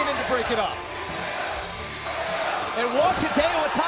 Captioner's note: crowd cheering